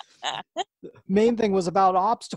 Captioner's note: laughs